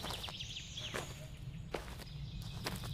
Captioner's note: birds Chirping